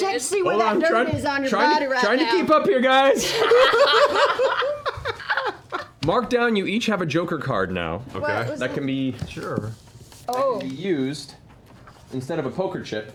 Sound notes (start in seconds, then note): 3.1 laughter